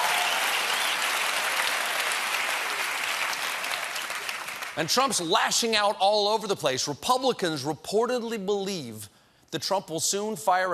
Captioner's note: cheers and applause